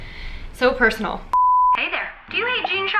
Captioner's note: beep